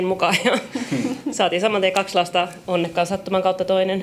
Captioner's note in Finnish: naurua